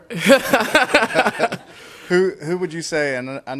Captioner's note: laughing